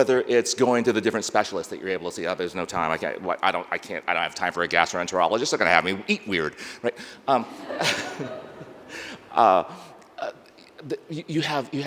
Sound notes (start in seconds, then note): 7.4 laughing